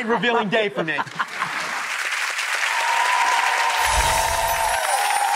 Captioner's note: audience applauds